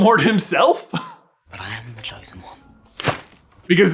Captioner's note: thwap!